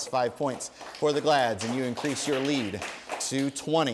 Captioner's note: applause